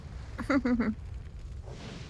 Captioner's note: laughs